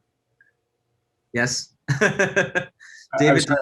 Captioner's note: laughs